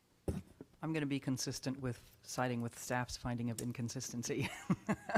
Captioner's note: laughter